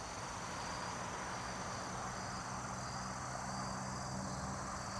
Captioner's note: traffic whirring